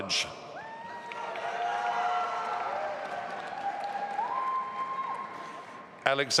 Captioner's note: audience applauding and cheering